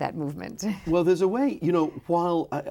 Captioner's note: laughs